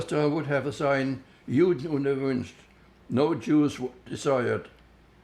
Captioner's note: german